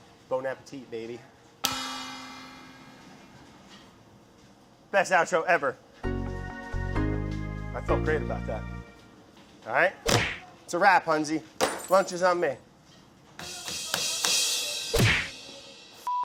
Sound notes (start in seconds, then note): 1.6 cymbal clanging; 10.0 whipping; 11.6 glass shattering; 13.4 cymbals crashing; 14.9 whipping